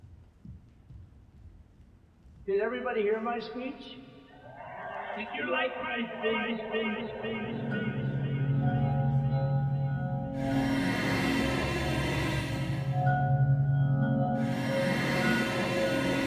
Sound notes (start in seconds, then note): 4.4 audience cheer; 10.2 ominous music